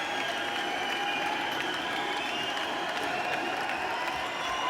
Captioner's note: crowd cheers